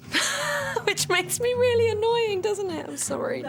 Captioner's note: laughs